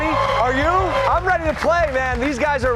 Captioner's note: cheers and applause